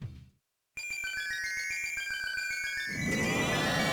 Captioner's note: eerie twinkly sfx; icy whirlwind sound